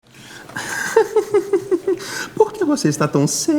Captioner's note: laughs